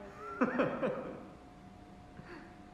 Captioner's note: Edwin laughs